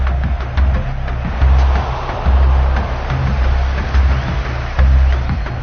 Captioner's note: crowd groaning